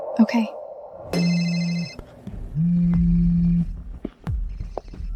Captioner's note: phone rings